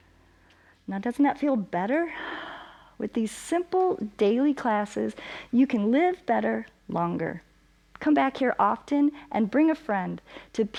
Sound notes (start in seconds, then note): 2.1 exhales